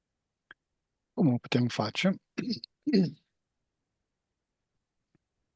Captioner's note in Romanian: voce dreasă